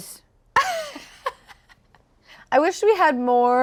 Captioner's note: laughing